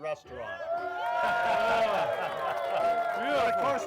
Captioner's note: crowd cheering